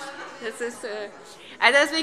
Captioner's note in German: Heiterkeit